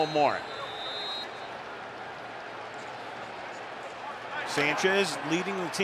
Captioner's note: whistle